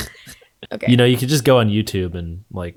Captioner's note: chuckles; laughs